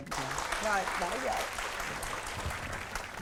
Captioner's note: applause